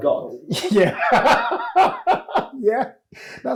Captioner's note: laughs